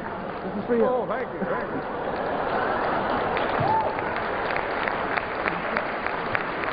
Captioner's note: applause